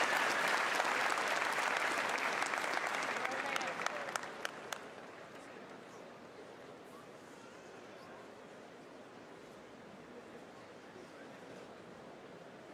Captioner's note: cheers and applause